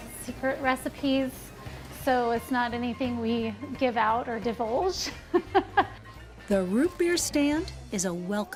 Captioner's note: snickers